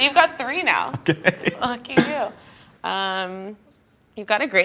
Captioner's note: laughing